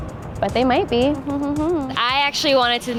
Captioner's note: hums